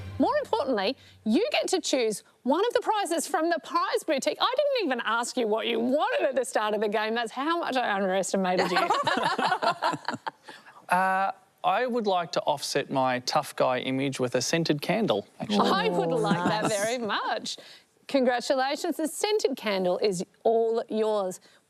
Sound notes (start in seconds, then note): 8.7 all laugh